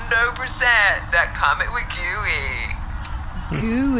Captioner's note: heavily slurred